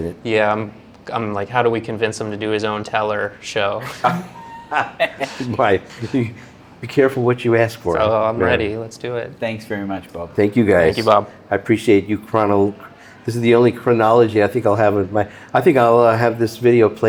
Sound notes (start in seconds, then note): 3.8 laughing